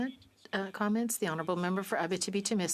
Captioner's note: speaking French